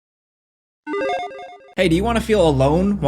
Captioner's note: electronic chiming